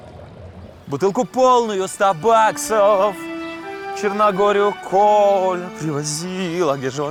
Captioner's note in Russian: Напевает